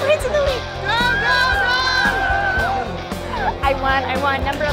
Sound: cheering; voiceover

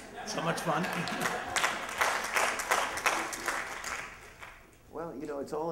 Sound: applause

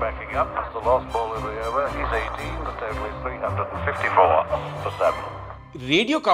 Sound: radio commentary

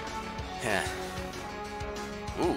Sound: sigh

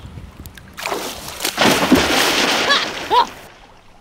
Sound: splashing

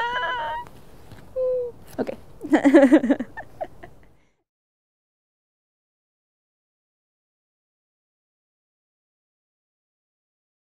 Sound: laughs

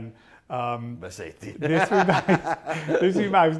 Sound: laughs

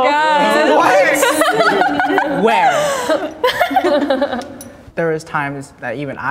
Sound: group laughing

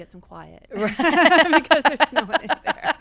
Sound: both laugh

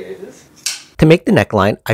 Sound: scissor snip

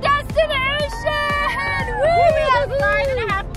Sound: everybody cheers

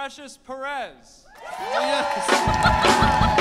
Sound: audience cheers and applauds; laughs

